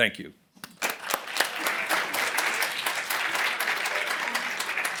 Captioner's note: applause